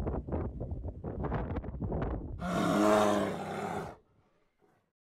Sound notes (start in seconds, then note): 2.4 bear roars